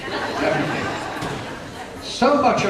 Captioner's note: laughter